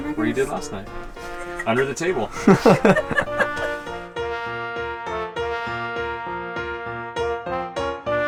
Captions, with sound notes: Where you did last night under the table. [Laughing]